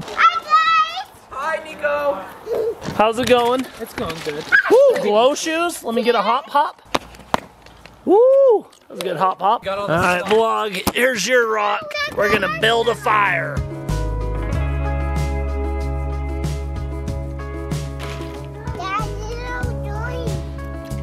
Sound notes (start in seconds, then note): 6.8 shoes thudding; 12.2 mellow tempo playing